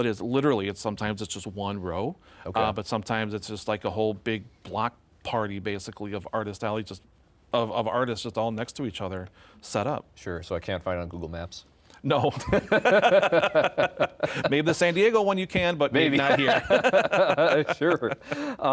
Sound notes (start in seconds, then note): 12.3 laughing